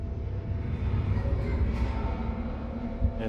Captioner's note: muffled child's voice